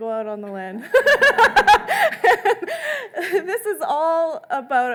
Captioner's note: laughing